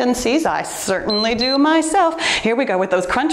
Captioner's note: timer beeps